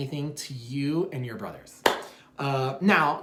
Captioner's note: claps